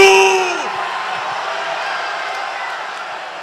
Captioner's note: applause